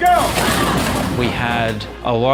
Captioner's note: people crashing